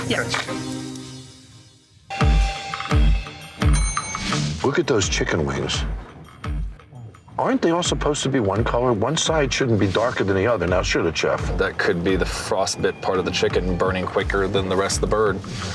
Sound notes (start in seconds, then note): 3.6 bell rings